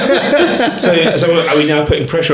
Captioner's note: laughing